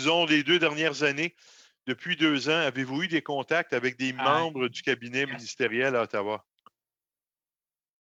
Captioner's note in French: voix de l'interprète